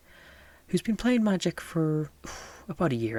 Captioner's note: exhale